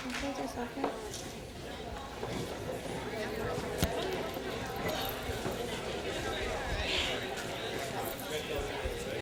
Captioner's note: applause; crowd noise